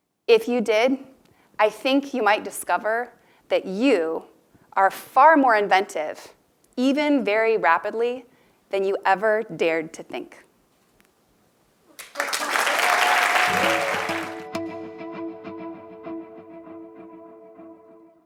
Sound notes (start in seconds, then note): 11.9 applause